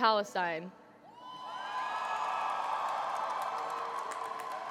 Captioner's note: cheering